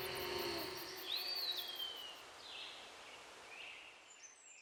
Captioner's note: birds chirping